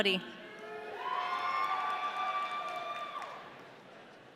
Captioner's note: audience cheering